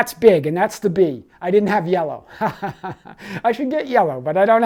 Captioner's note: laughs